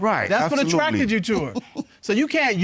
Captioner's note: chuckles